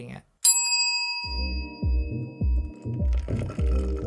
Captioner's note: bell chimes; muffled pop music